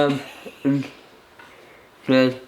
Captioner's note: laughs